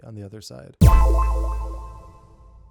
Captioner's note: tone echoing